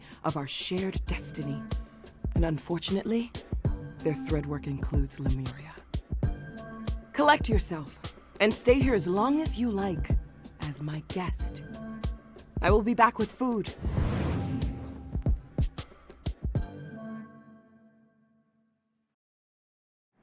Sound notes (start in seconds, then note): 13.8 wind whooshes